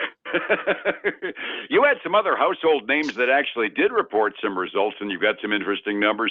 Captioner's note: laughs